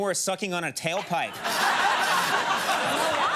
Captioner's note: audience laughing